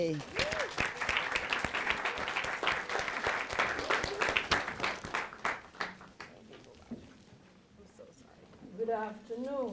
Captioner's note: applause